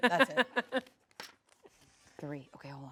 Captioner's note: laughs